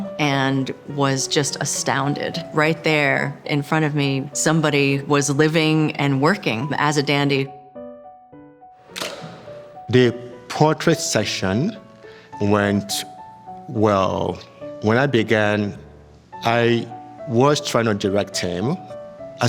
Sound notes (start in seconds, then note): 8.9 camera shutters